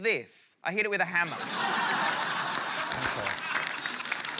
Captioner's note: applause